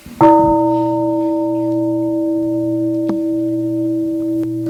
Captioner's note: gong